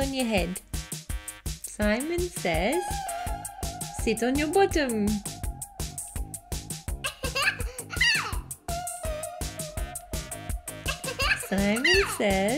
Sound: child toddler laughing

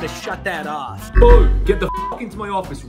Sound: buzzer

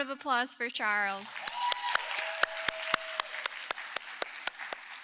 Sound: audience cheering

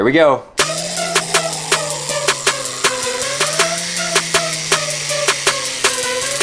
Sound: hip-hop music; electric whirring

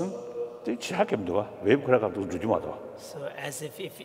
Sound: speaking foreign language

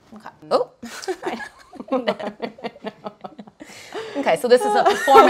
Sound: laughter

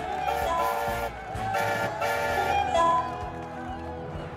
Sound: cheering; salty honks horn and porter whistles

